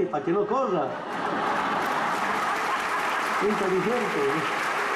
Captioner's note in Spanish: risas, aplausos